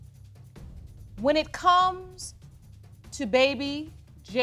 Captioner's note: none